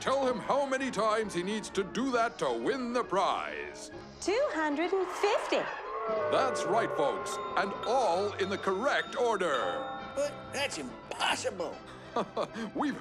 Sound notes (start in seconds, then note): 5.0 audience boos; 11.9 laughs